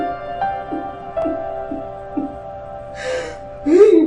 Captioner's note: sobbing